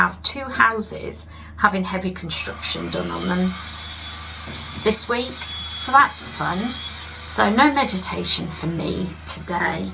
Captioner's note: sound of construction